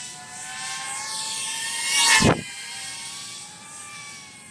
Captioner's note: sound of flying machine